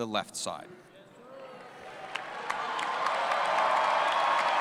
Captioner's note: cheering